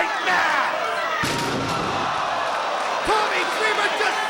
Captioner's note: table crashing